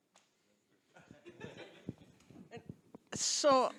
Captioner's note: audience laughing